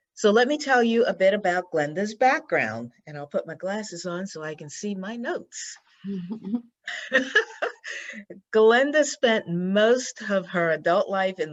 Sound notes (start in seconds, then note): 6.1 laughs